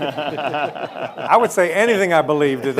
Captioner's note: audience laughing